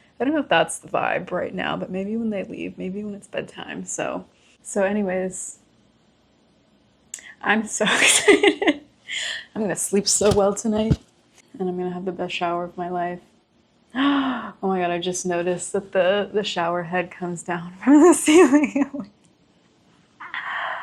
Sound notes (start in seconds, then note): 14.0 gasp